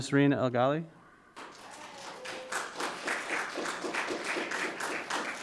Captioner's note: audience applauding